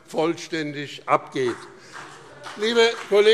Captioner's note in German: Beifall BÜNDNIS 90/DIE GRÜNEN und CDU